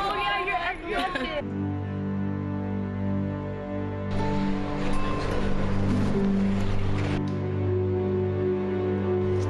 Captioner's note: laughter